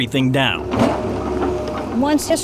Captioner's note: construction equipment moving